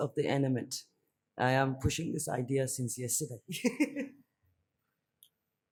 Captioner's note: laughs